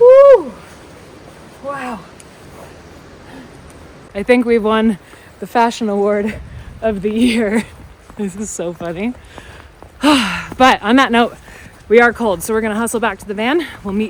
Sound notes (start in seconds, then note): 10.0 sighs